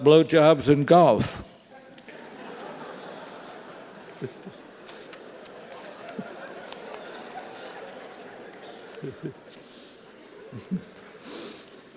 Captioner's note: laugh